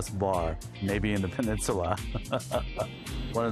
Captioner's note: laughs